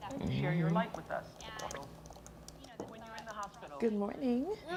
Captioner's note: clicking